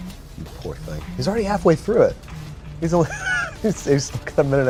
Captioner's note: laughs